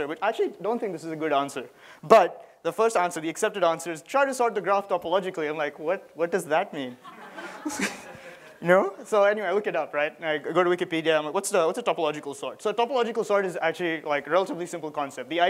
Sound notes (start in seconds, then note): 7.0 laughter